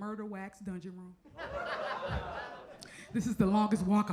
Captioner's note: audience laughs